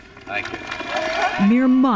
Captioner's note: applause